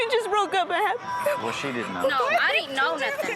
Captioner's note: sobbing